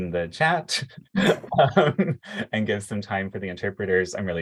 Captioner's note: laughter